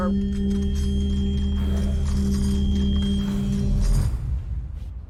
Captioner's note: rustling